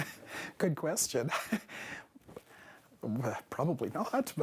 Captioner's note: laughter